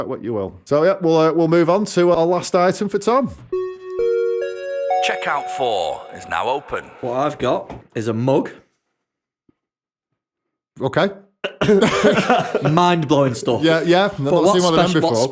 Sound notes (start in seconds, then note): 4.3 chime